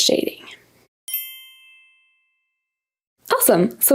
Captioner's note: text dings